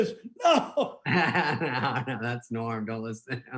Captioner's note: laughing